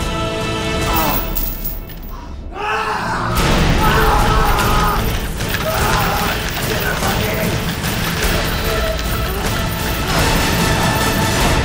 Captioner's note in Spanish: grito desesperado